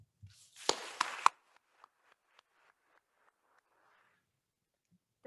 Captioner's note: attendees applauding